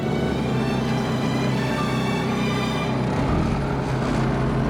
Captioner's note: romantic orchestral music; humming engine